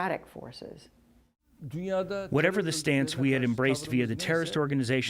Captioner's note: through translator